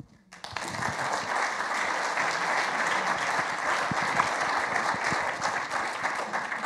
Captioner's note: audience applauding